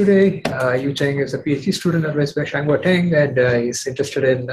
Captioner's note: non-english speech